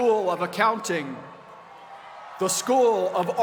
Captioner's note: cheers and applause